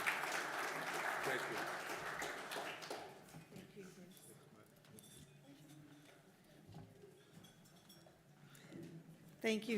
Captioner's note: applause